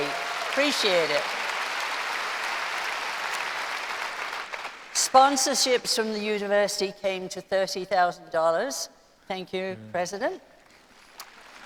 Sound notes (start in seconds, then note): 2.0 applause